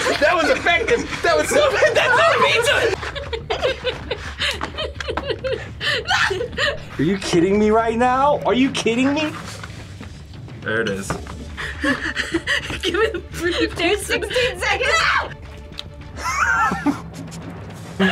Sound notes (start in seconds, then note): 3.2 laughs; 11.5 laughs